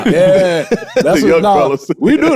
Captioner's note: group laughing